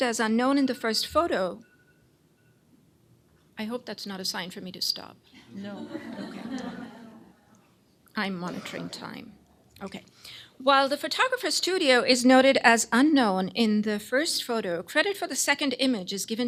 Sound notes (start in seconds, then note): 0.6 phone ringing